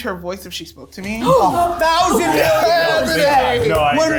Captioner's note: gasping